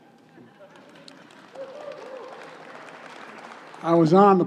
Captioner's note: applause